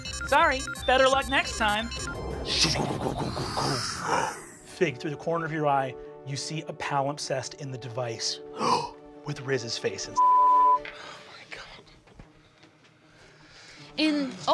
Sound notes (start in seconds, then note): 2.7 mimics sound waves; 8.6 gasps; 10.2 beep